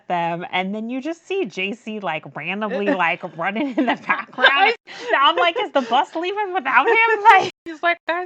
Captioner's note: laughs